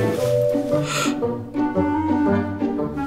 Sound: gasps

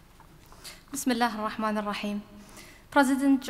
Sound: speaking in foreign language

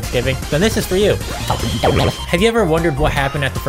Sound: distorted voice

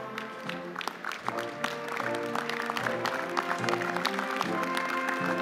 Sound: audience applauding

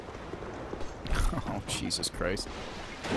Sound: laughs

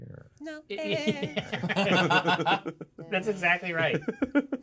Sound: laughs; speaker laughs

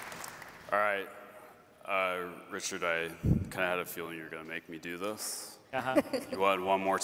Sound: applause

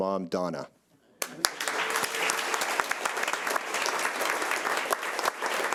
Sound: audience applauding

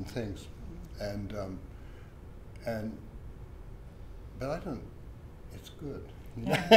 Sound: laughs

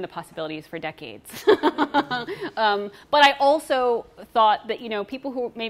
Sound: laughs

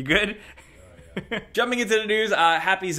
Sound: chuckling

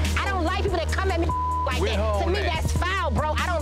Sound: beep

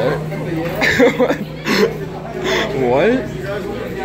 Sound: laughs

